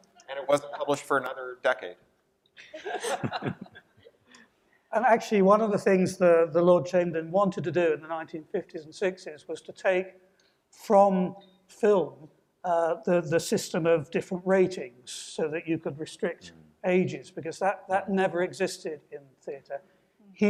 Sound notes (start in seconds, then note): 2.7 audience laughing